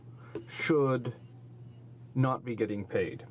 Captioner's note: speaking french